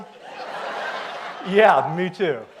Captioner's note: audience laughs